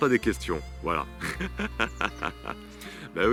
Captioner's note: laughs